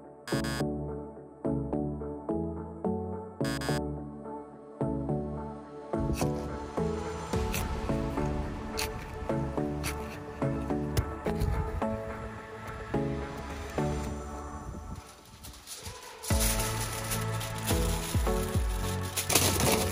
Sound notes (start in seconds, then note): 0.3 buzzing; 6.2 scraping; 16.5 crinkling